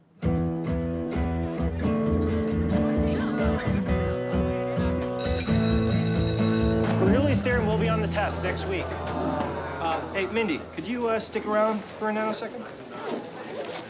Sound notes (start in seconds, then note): 0.1 guitar music; 5.2 school bell rings